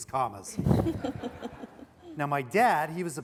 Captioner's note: laughing